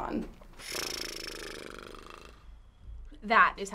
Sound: blows raspberry

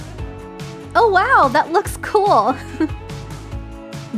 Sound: chuckle

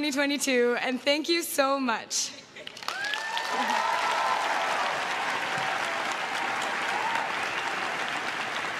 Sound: cheering and applause

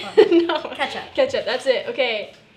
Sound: laughter

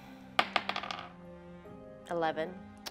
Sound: dice rolling

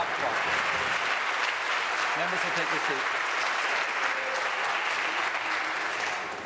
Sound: applause

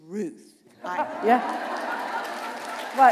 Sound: applause

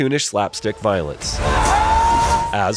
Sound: man screams

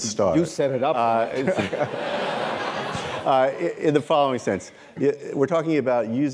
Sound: laughter

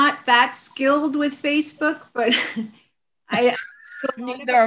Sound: chuckles

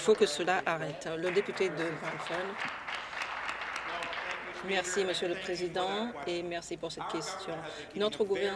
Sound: applause

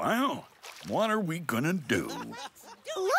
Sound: rabbit and mouse laughing

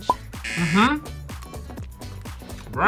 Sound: buzzer

